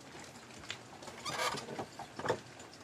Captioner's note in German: Knarzen